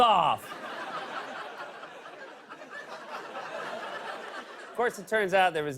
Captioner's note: laughter